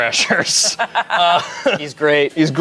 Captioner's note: laughs